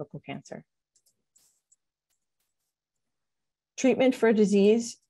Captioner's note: mouse clicks